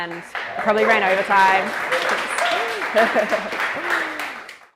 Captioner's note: audience claps